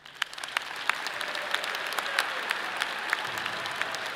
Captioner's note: audience applauding